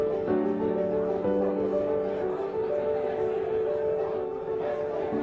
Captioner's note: muffled chatter